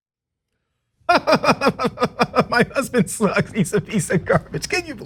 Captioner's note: laugh